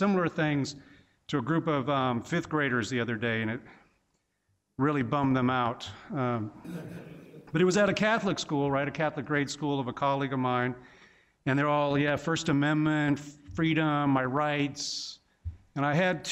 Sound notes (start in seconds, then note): 6.5 laughing